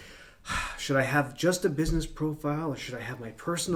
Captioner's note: sighs